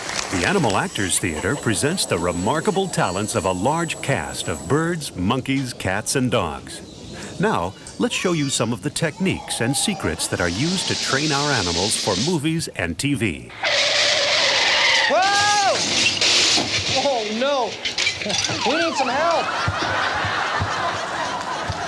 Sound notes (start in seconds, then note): 13.6 screeching sound effect; 15.2 glass breaking sound effect; 19.8 audience laughing